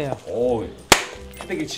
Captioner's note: slap!